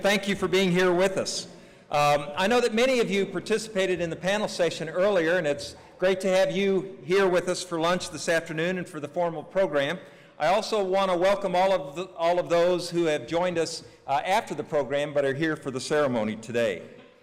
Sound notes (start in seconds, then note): none